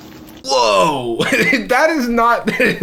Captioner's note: laughs